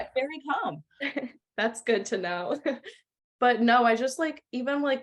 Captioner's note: laughter